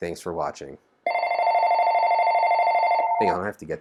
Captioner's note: phone ringing